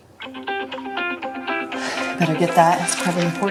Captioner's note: phone Rings